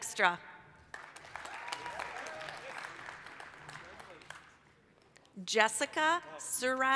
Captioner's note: applause, cheering